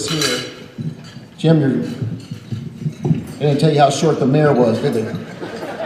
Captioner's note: laughter